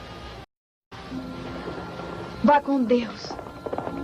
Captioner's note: hoofbeats thundering